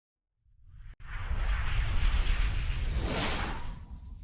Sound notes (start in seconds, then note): 1.0 swoosh